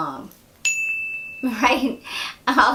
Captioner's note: bell rings